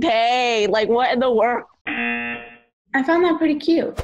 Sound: buzzer rings

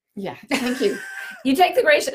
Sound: laughs

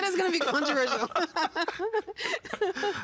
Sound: laughing

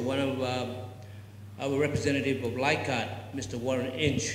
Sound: foreign word spoken

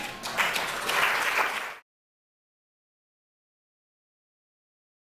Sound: audience applauding

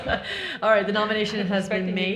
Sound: all laughing

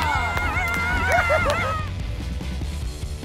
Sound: cheering

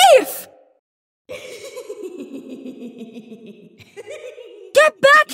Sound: echoed laughter

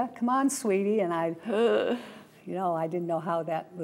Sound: gasps

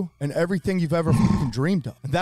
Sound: laughing

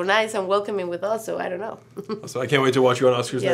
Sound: chuckles

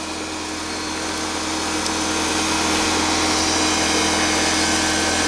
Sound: machine whirring

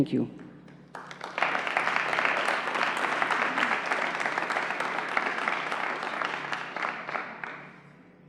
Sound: applause

